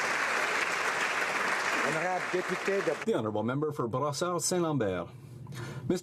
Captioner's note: some Applause